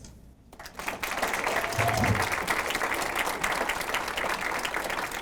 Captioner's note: audience applauds